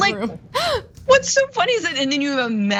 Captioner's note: laugh